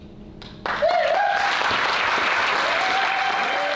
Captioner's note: applause, cheering